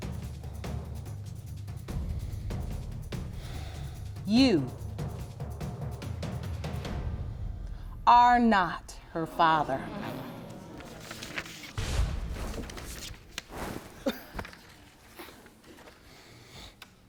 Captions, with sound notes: You... ...are not her father. (AUDIENCE GASPING)